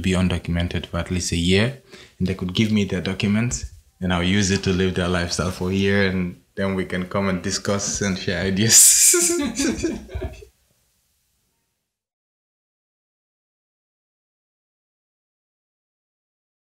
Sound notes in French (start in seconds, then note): 9.0 rires